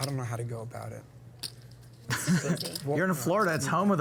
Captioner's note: laughs